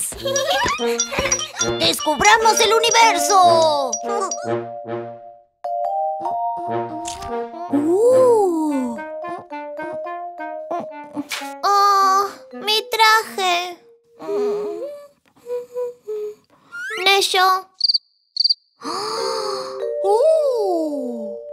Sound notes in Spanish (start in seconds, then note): 0.2 Risas; 18.3 Sonidos de grillos